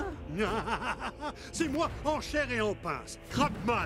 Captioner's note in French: il rit